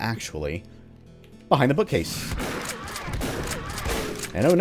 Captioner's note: Bugdogs alerted